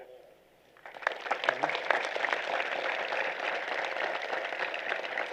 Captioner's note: applause